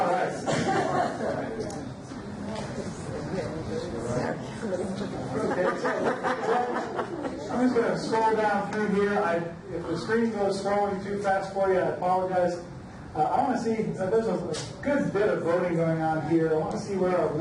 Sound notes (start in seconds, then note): 0.0 audience laughs; 1.8 overlapping chatter